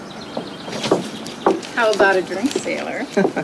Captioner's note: birds chirping